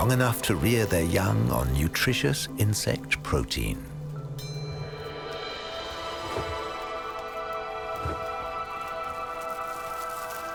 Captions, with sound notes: Long enough to rear their young on nutritious insect protein. (light music) (wings flapping)